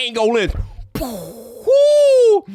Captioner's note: mocking explosion